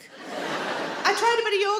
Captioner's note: audience laughing